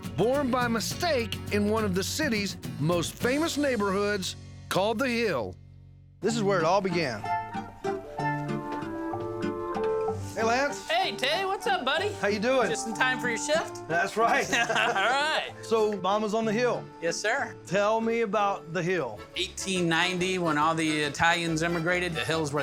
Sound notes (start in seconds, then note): 14.2 laughing